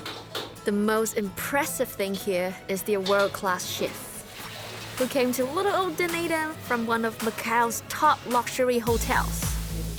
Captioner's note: speaks chinese